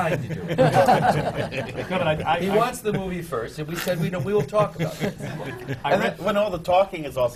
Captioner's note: laughter